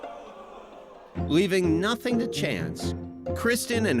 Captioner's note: crowd boos